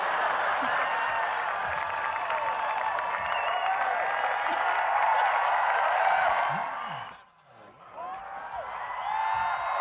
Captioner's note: crowd cheering